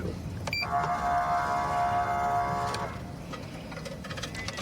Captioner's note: horn blaring